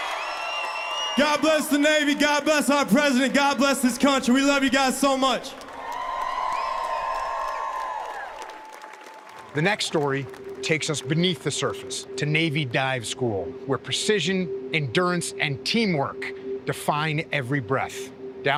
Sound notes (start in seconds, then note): 6.1 cheers